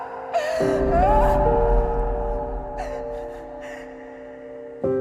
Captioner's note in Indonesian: tertawa